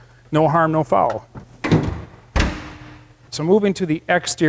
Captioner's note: trunk clanking shut